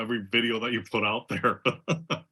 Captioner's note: laugh